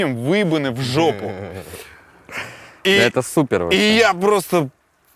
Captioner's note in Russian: смеётся